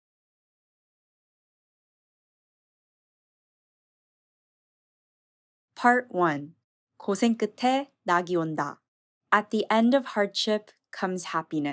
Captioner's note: non-English language spoken